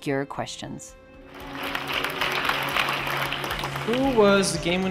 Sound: applause

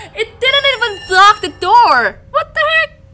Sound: radiation sound

